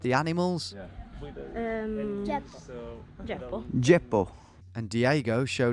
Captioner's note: speaking in a foreign language